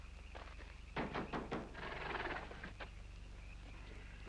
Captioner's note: knocks